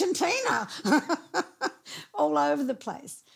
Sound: laughing

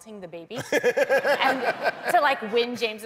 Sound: laughter

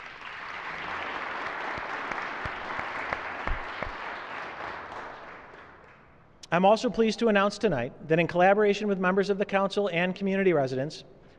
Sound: applause

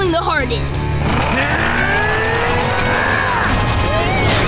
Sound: grunting; screaming

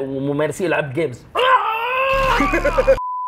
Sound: screams; laughs

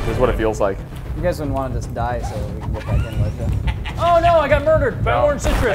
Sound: laugh

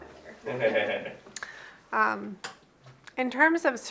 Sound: off camera man laughs

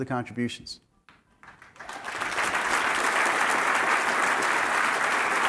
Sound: applause

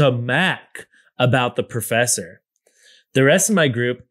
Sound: none

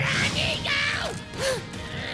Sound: gasp

